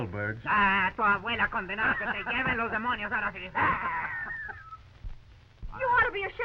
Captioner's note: Pablo speaking in foreign language